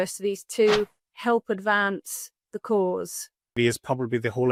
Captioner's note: graphic whooshes